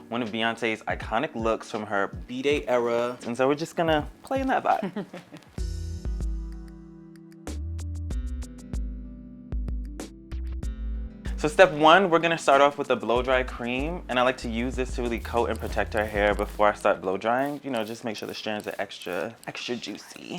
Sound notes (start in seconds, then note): 4.6 laughs; 5.5 upbeat music